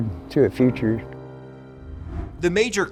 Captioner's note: graphics whooshing